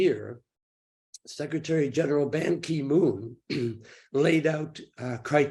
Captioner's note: clears throat